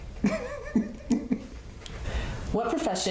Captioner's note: laughs